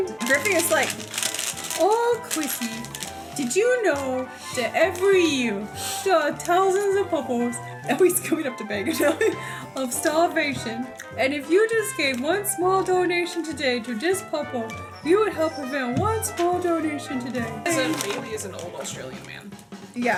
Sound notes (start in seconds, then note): 0.0 raspy voice; 7.9 normal voice; 9.4 high voice